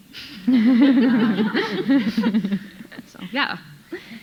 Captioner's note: audience laughing